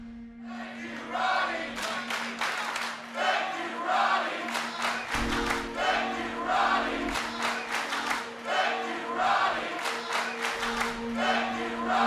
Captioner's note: fans chanting